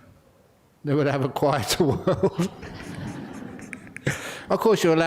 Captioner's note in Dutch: lachen